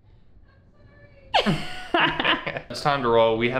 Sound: both laugh

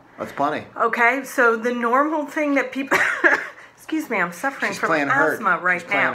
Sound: coughs

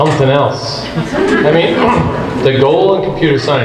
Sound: group laughs

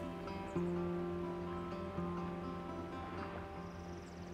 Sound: river sounds

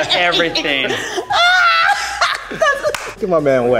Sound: laughs

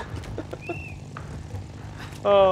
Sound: giggling

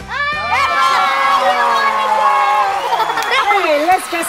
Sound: upbeat music; audience cheering

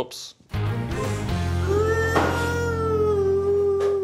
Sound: crying

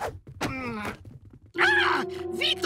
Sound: yelling

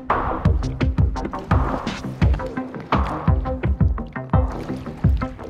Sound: water splashing

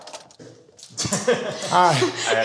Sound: laughs

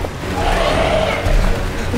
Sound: roar

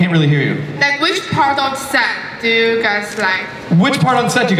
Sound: voiceover

